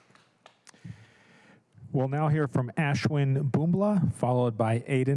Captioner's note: applause